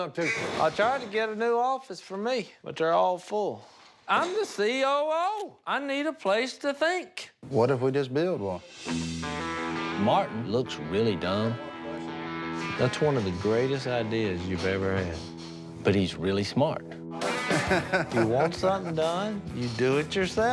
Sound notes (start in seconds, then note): 17.2 laughs